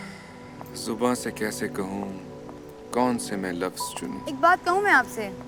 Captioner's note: Iffy recites poem